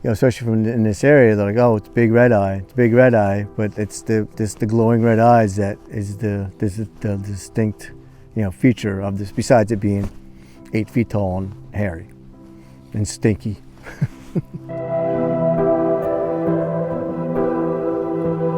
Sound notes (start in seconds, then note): 13.8 chuckles; 14.6 suspenseful music